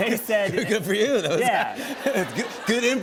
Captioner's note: laughter